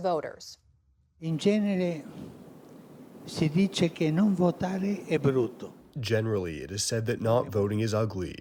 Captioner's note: through translator